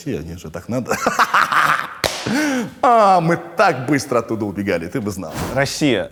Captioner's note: laughs, slaps hands on laps